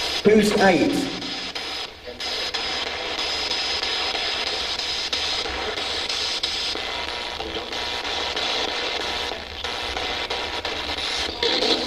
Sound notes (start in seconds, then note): 2.6 static buzzing